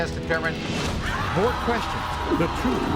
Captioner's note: audience oohs